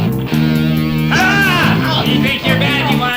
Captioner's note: yelling